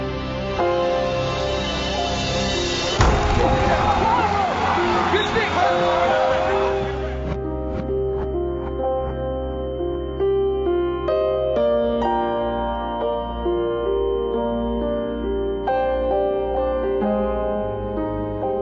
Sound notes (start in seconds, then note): 2.7 crowd cheering; 3.0 bodies slamming together; 4.5 men shouting; 7.8 high-pitched tone ringing